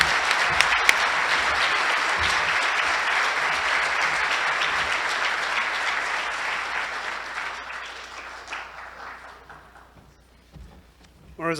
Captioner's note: applause